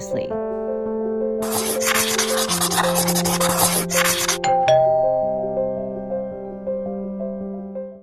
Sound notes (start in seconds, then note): 0.3 gentle music; 1.4 pen scribbling; 4.5 doorbell rings